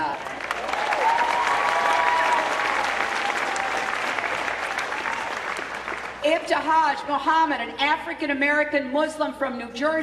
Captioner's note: cheering